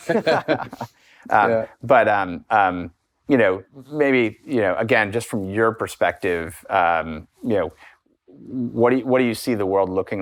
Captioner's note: laughter